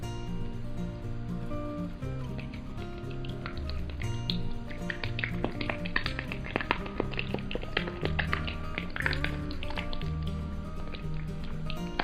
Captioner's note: water splashes